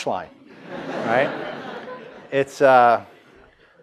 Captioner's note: audience laughs